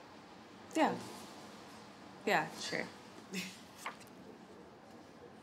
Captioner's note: laughs